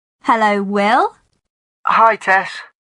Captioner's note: on phone